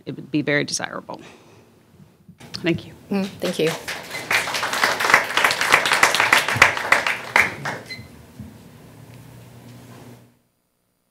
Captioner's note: applause